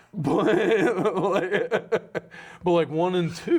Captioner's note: laughs